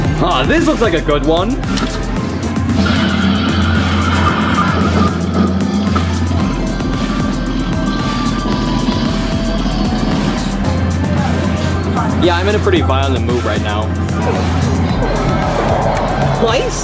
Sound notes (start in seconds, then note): 3.0 tires screeching; 4.4 electronic game music; 4.4 upbeat music; 14.3 electronic game music; 14.3 upbeat music